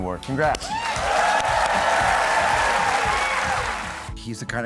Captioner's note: audience cheers